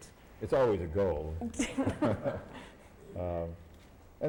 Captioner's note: laughter